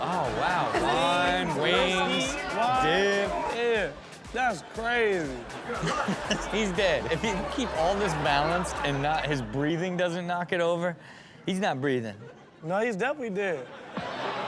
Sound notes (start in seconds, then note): 5.4 laughs; 13.9 party music plays